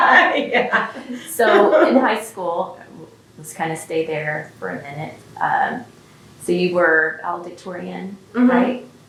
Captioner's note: laughter